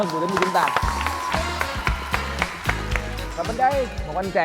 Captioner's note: applause